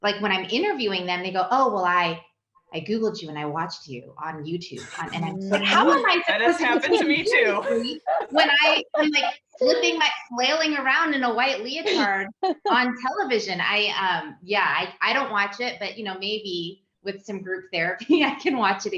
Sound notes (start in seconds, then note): 4.8 laughs